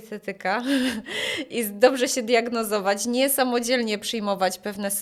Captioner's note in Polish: śmiech; wciągnięcie powietrza